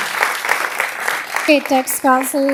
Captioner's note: applause